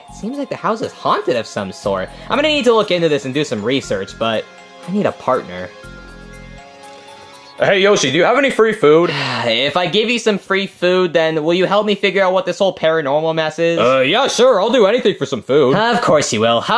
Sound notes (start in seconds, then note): 6.1 suspenseful music; 9.0 Yoshi sighing